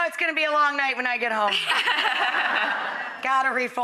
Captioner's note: laughing